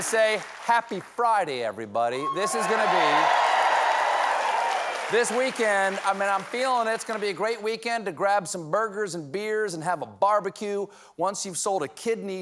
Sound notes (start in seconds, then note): 2.1 cheers and applause